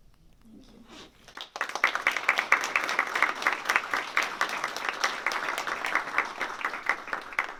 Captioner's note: applause